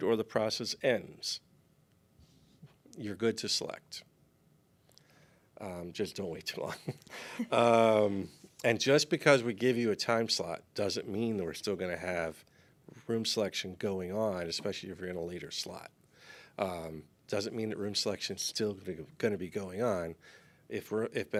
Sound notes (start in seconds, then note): 6.6 chuckles